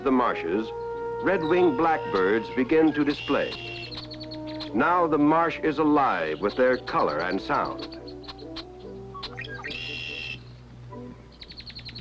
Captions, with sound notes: red-winged blackbirds begin to display. Now the marsh is alive with their color and sound. (red-winged blackbird sounds)